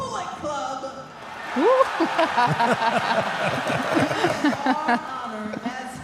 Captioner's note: audience applauding; Michelle and Mark laughs